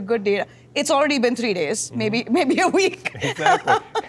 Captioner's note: laughs